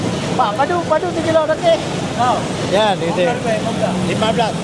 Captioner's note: speaking Aceh